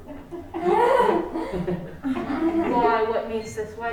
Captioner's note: Phebe giggling